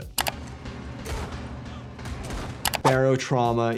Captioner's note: keyboard clacking; guns firing; keyboard clacking